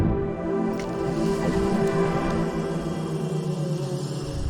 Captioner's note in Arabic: موسيقى درامية ناعمة; طنين الطائرة بدون طيار